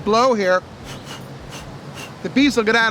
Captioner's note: blows quickly